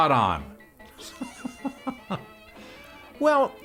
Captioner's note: laughing